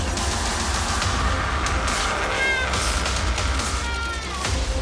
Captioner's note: screaming